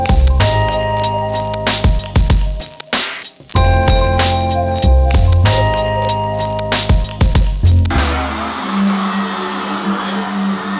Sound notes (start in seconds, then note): 7.9 fans screaming